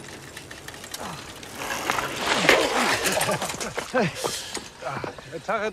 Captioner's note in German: Bremsgeräusche, Stöhnen